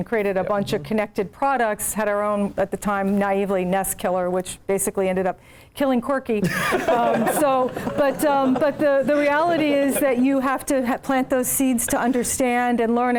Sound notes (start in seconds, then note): 6.5 laugh